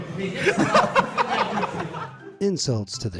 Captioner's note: man laughing